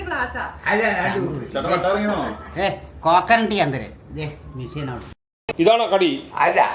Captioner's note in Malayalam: പൊട്ടിച്ചിരി